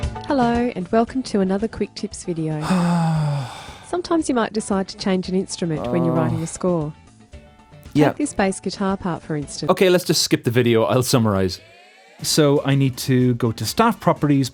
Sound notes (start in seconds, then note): 2.6 sighs